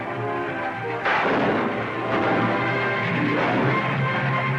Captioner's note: gunshots